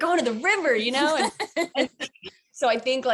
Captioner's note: laughing